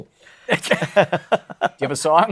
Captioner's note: laughter